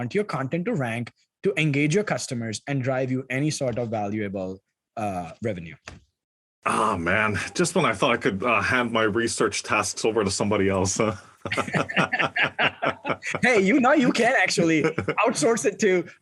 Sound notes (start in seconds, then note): 12.6 laugh